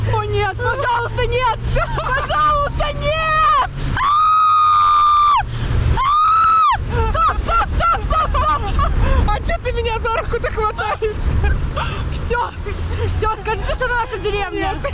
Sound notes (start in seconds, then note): 3.9 cry